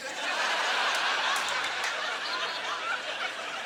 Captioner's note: audience laughter